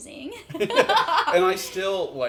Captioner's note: laugh